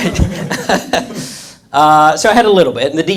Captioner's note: audience laughs